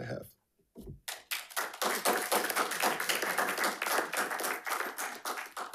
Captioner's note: attendees clapping